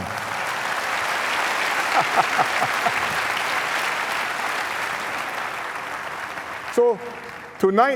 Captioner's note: applause